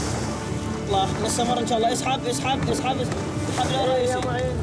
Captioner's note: Arabic spoken audio